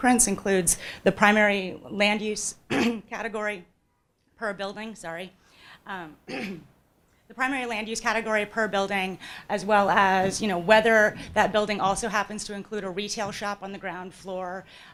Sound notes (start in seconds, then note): 6.3 clears throat